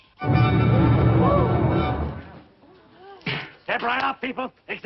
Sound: gasping

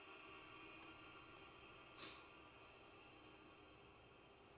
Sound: heavy breathing

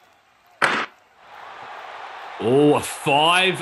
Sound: crowd chanting; cheering

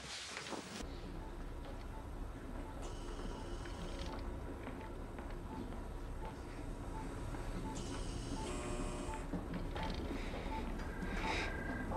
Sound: monitor beeps softly and ventilator makes noise

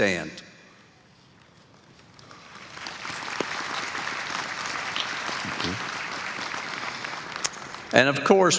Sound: applause

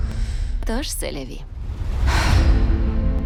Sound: exhales; somber music continues

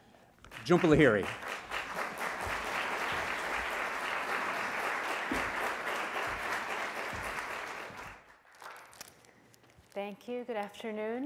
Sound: applause

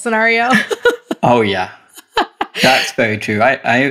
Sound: laughs

